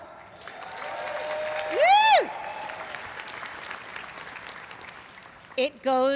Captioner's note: everyone cheering and applauding